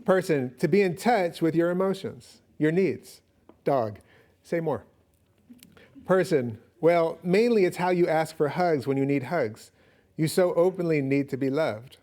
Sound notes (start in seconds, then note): none